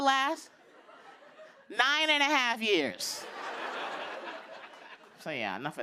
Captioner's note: laughter